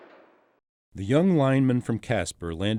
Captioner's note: voiceover